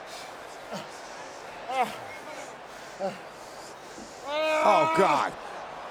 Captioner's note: Batista grunting